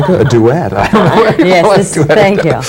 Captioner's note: laughs